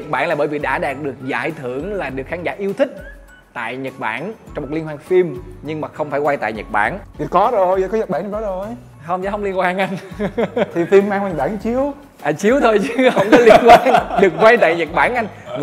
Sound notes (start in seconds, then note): 9.9 laugh